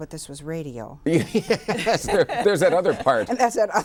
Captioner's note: all laugh